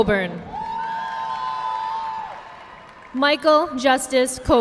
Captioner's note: audience clapping